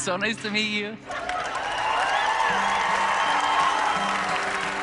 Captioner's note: cheering and applause